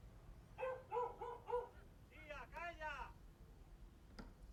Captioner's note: dog barks